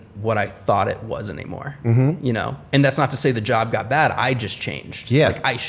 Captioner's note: none